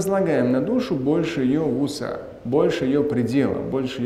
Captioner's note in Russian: говорит на арабском